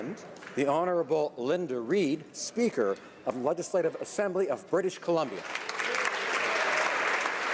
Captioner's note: applause